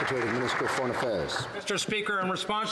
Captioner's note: some Applause